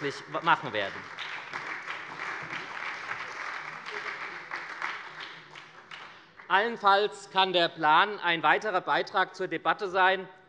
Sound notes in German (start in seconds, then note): 1.7 Beifall bei der SPD